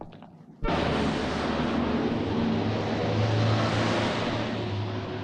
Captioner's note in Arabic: هدير المحركات